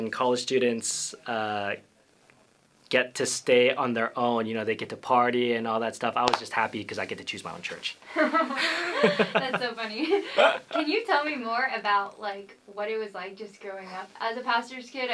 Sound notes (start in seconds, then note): 8.1 laughter